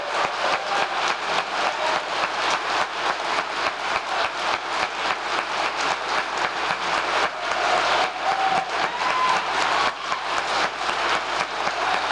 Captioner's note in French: applause